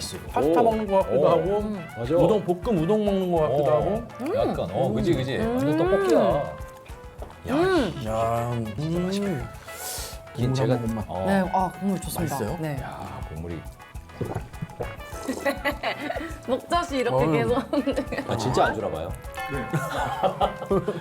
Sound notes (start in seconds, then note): 14.1 gulp